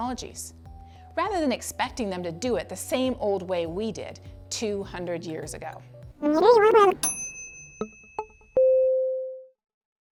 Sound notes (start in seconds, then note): 6.2 record scratch; 7.0 ding